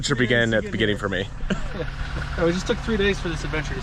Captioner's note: laughing